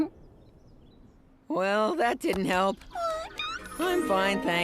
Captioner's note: squeaking